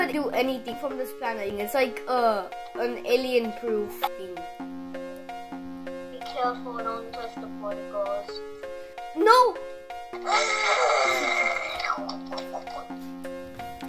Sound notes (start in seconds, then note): 10.2 shouts